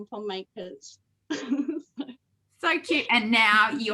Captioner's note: laughs